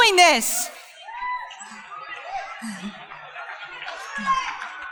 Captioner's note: crowd cheering